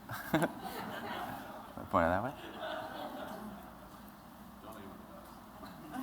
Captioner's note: laughter